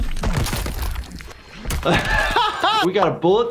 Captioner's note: bones crunching